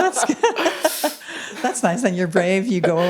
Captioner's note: chuckles